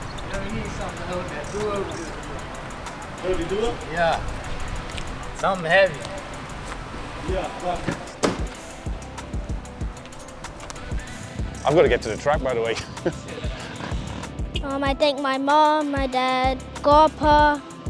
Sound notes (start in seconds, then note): 7.6 door slams; 12.7 laughs